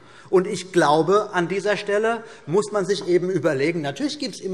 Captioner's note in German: none